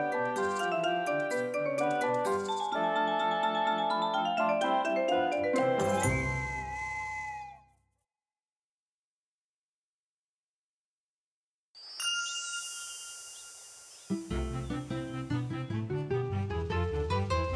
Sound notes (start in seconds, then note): 6.0 steam whistle note; 14.1 classical music playing